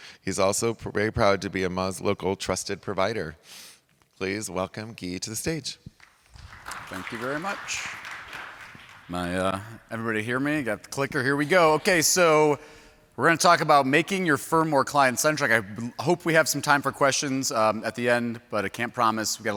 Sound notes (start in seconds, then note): 5.9 applause